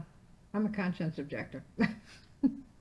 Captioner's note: laughing